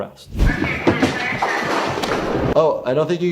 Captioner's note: skateboard rolling